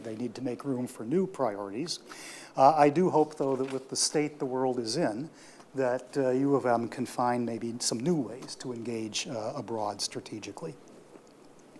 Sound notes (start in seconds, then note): none